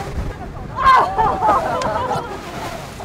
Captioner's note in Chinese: 痛苦的呻吟